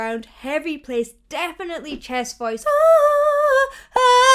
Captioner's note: vocalizes